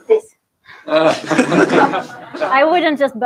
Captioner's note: laughter